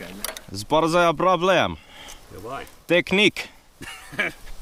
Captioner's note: in Finn-Russian gibberish